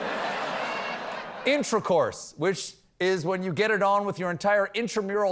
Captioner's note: laughter